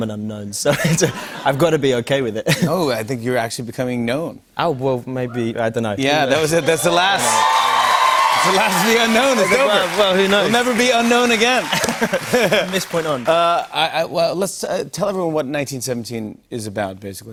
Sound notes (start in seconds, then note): 6.4 cheers and applause